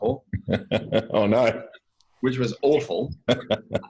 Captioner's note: laughs